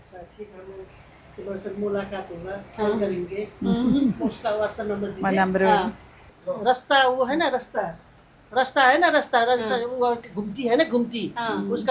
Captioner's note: speaks in Hindi